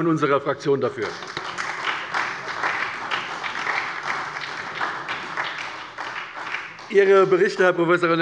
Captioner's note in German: Beifall bei der SPD